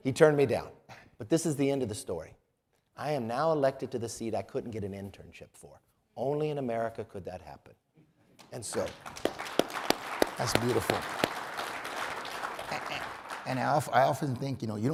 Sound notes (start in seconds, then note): 8.7 audience applauds